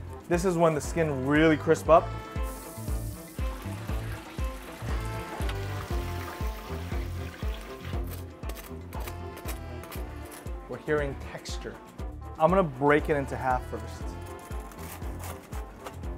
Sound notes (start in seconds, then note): 2.3 oil bubbling; 8.0 crust scraping